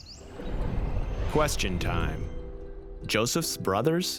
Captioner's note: voiceover